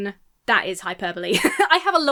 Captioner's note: laugh